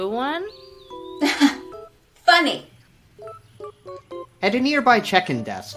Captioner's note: counselor chuckling